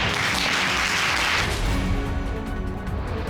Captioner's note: all clapping